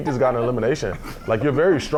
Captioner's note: talking and laughing over each other